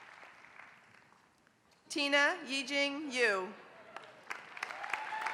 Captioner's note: applause